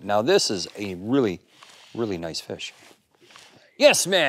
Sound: laughs

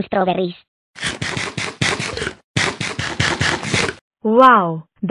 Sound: eating

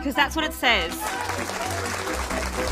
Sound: applause

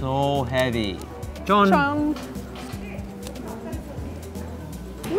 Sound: both speaking Korean

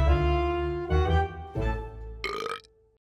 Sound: burp

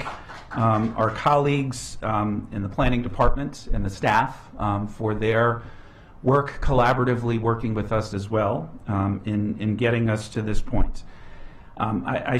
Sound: applause

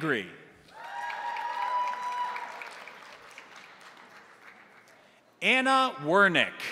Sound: crowd cheering; crowd applauding

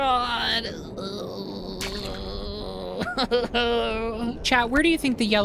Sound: angrily Groaning

